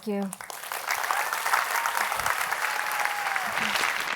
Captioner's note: applause